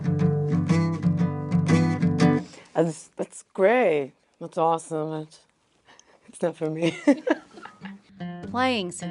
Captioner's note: laugh